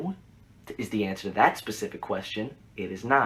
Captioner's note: none